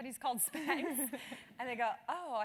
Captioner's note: laugh